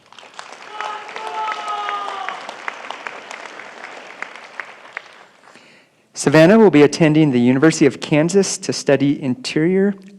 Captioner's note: applause